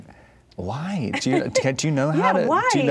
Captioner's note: laughing